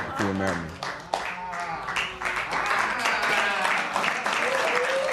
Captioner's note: applause